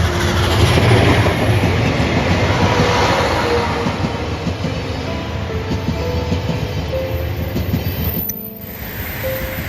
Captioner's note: steam locomotive